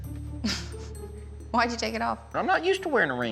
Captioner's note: chuckles